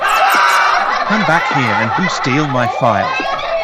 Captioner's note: troublemakers Laughing